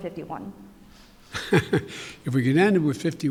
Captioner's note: laughs